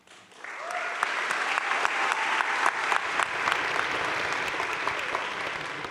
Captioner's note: crowd cheering and applauding